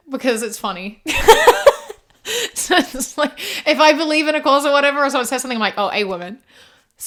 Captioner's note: laughs